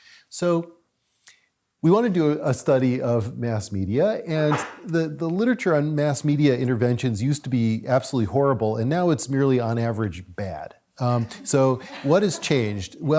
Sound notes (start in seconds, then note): 11.6 audience laughs